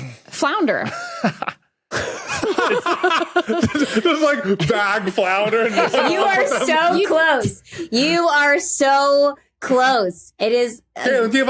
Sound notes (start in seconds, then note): 1.9 laugh; 2.0 laughs